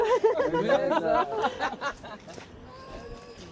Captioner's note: laughter